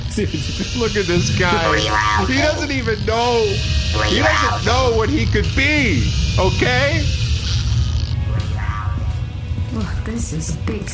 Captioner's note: crying